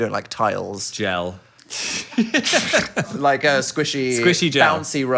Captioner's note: laughing